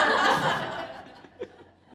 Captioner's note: laughter